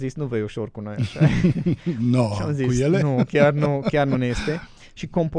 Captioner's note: laughter